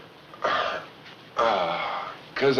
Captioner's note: moans